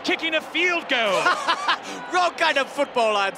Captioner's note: laughs